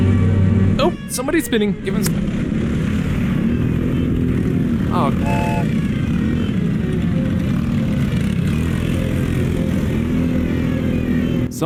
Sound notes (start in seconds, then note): 5.1 train whistle